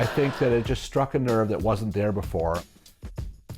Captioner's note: laughter